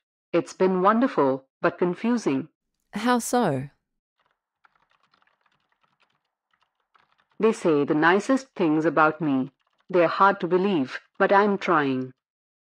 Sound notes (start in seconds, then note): 4.2 background SFX: Keyboard typing